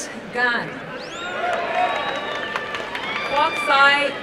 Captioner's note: applause and cheering